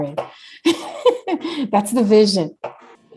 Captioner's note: laughs